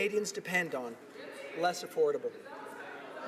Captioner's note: laughter